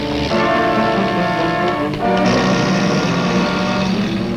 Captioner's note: car engine revving